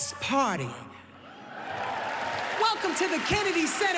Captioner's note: cheering and applause